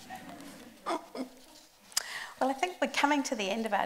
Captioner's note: group laughs